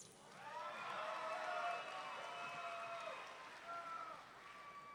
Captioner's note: audience members cheering